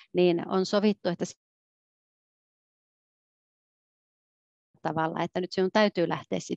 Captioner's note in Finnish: ääni katkeaa